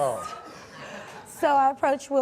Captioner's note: audience laughs